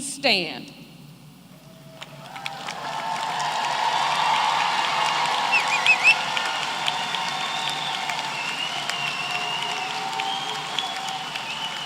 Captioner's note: applause